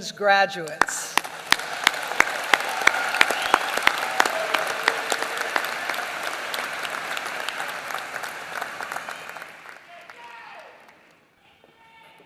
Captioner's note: applause